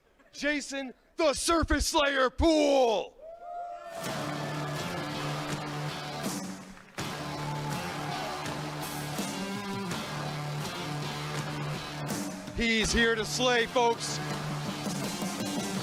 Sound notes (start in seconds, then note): 3.2 crowd cheering; 4.3 rock music